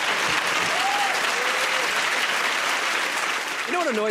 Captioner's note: applause